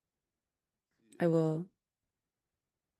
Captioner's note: speaking French